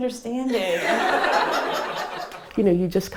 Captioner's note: laughter